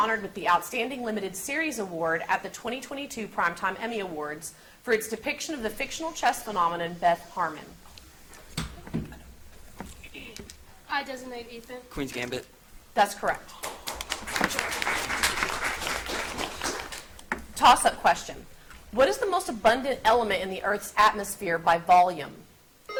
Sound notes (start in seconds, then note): 13.5 audience applauds; 22.7 buzzer beeps